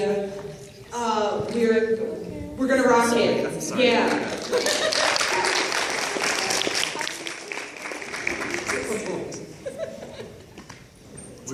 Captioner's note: applause